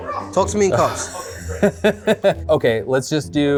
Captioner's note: laughs